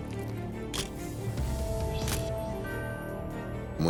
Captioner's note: camera shutter click